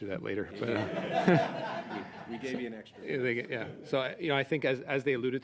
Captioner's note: laughter